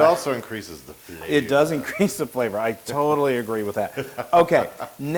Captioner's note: laugh